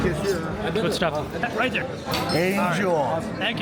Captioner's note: none